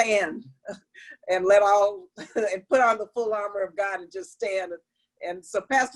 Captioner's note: laughter